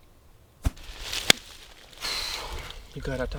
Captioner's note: hands smacking